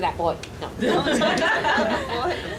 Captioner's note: audience laughing loudly